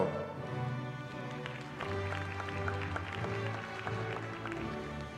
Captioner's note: applause